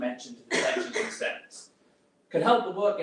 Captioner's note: drowned out with coughing